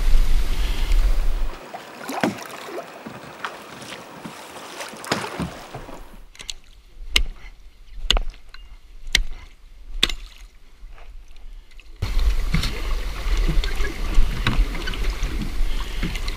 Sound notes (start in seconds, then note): 1.8 swinging of axe; 5.0 swinging of axe